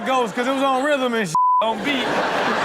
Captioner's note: beep sound